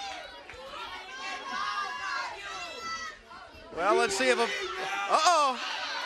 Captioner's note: crowd chatter